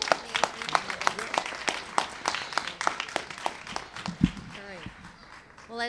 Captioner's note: applause